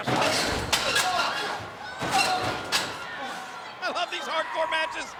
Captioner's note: metal clanging